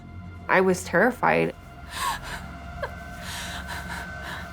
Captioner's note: Whitney sobbing